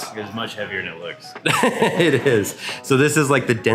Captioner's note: laughs